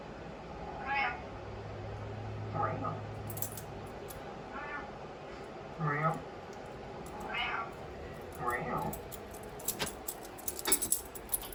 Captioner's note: Butters the Bean meowing on TV